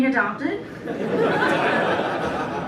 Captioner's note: laughter